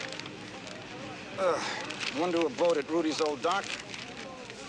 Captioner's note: sighs